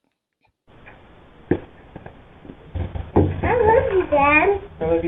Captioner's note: feet clumping